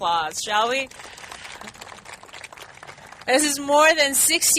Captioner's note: clapping